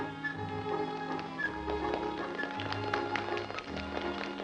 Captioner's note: applause